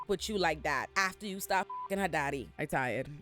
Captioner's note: beep